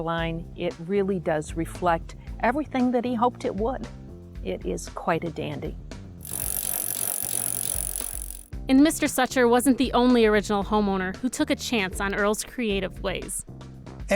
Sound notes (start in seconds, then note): 6.2 bicycle gears clicking